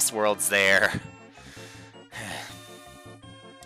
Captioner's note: breathing